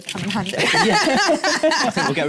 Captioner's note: laughs